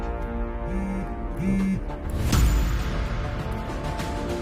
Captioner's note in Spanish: Vibra el celular